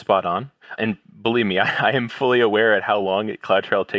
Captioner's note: laugh